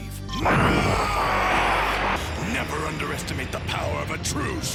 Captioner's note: yells